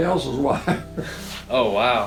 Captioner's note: chuckling